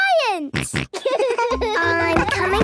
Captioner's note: giggles, snorts